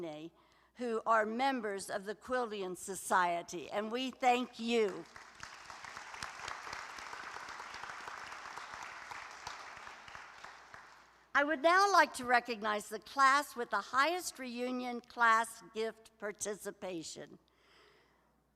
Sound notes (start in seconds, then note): 4.8 applause